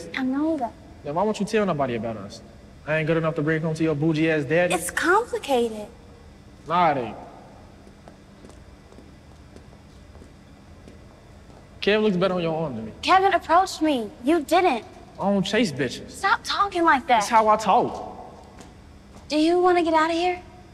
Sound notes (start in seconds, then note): 8.8 footsteps tapping